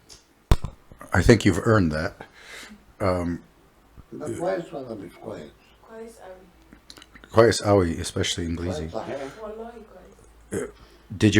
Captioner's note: Arabic